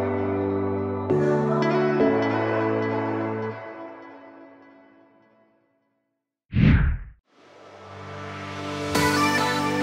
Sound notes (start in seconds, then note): 6.5 screen whooshes